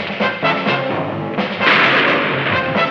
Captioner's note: shot firing